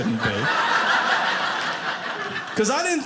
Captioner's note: audience laughing